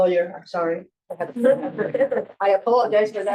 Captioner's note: panelist laughs